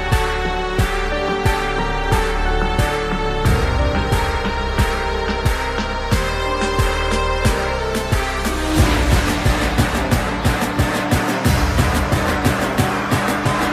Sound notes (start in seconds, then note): none